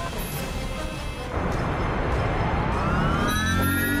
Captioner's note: whirring